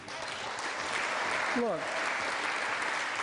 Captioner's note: applause